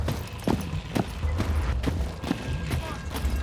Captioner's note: feet marching